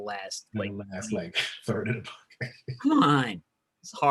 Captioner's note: murmurs